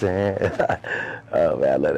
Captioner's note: laughter